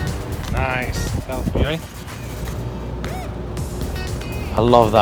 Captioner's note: foreign language